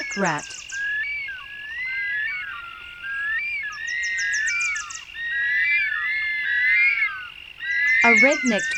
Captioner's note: nocturnal sounds